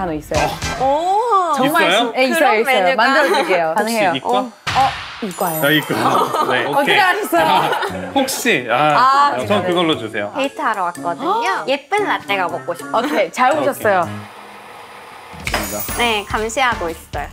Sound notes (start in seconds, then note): 13.8 grinding grinding